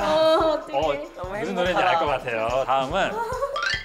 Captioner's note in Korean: 오열